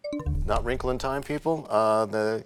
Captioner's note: bell chimes, times expires